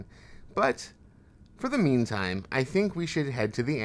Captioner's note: none